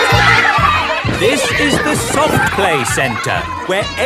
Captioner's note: loudly over shouting